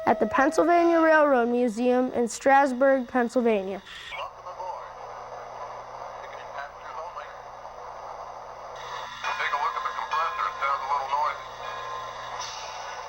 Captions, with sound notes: at the Pennsylvania Railroad Museum in Strasburg, Pennsylvania. - [Voiceover] Welcome aboard. - [Voiceover] I'll take a look at the compressor. It sounds a little noisy.